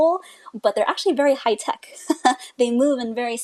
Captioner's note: laughs